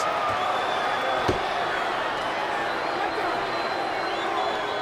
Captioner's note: crowd boos